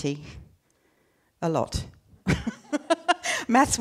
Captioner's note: laughing